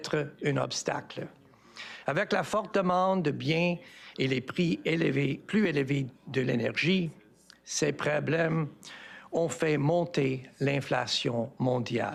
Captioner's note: speaking French